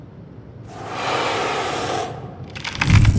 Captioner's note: hissing